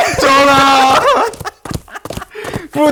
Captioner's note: haha